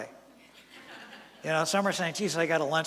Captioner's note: laughter from audience